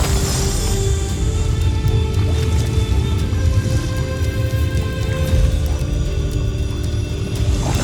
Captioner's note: celestial chimes; water gurgling; celestial chimes; music swells